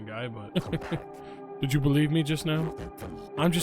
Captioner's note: laughs